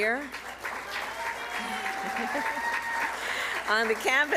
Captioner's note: applause